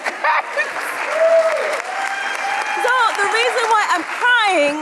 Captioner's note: audience cheering